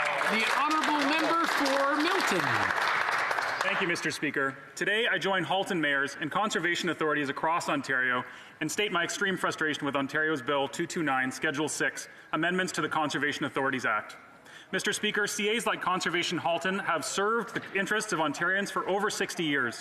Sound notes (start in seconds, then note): 3.1 some Applause